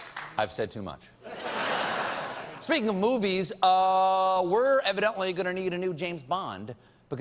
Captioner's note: laughter